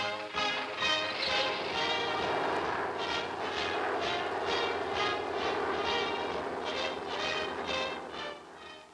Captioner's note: plane propellor and engine